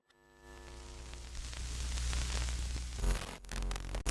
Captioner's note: electricity buzzing